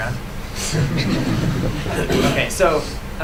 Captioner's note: laughter